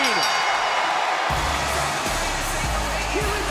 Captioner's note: bell rings; crowd cheers